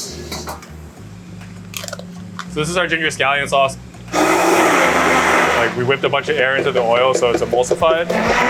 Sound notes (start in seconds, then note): 4.1 blender whirring